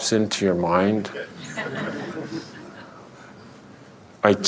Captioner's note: laughter